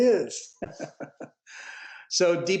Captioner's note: laughs